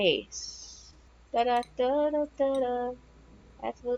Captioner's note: humming